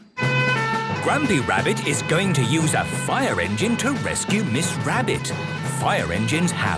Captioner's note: sirens